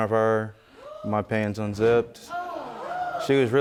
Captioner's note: audience gasping